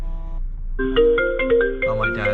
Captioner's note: phone vibrates; phone rings